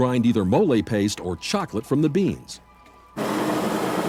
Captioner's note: machine whirring